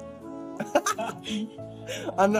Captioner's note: chuckles